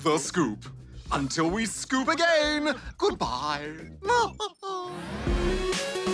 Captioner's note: laughs